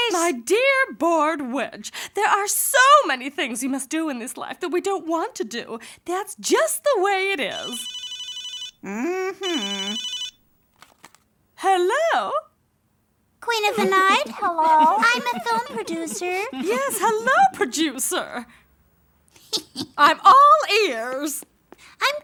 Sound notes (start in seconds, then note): 7.5 phone ringing; 18.6 witch laughing